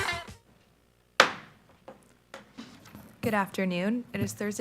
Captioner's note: gavel banging